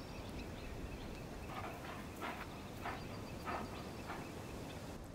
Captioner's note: dog panting; fire crackling